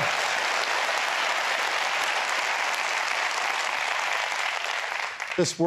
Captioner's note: applause